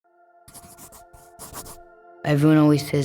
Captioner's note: gentle music; pencil scratching